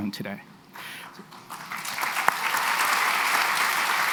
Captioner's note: applause